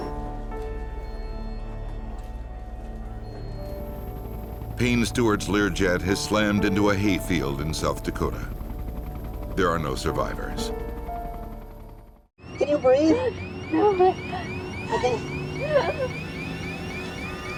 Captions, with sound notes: (somber music) (helicopter rotors thumping) - [Voiceover] Payne Stewart's Learjet has slammed into a hayfield in South Dakota. There are no survivors. (alarm sounding) - Can you breathe? - No! (flight crew gasping)